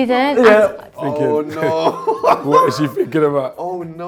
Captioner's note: laughing